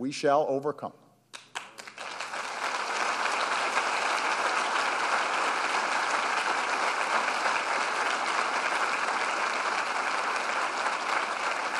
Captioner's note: applause